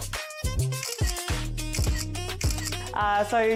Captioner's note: camera clicking